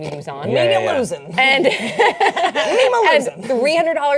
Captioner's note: laughing